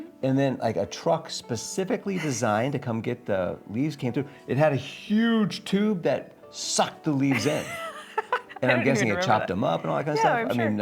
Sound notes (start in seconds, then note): 7.3 laughing